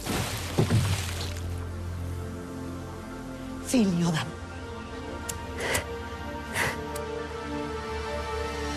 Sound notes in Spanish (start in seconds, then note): 5.6 Sonidos del encendedor